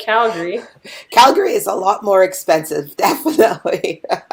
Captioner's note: laughing